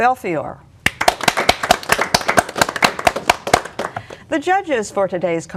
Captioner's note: applause